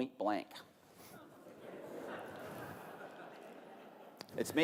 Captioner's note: laughter